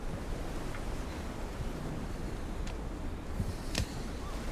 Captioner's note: waves lightly crashing